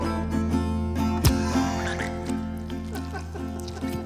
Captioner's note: guitar music; blood splashing; Mr. Smiles laughing; guitar music